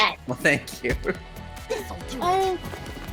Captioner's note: laughs